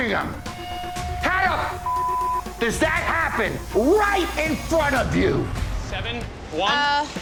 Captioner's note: beep